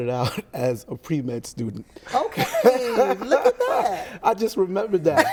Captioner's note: laughs